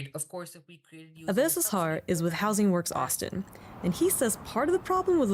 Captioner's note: voice-over